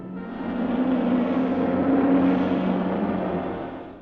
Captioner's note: vehicle whooshes